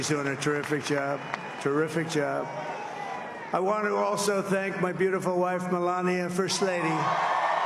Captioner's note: applause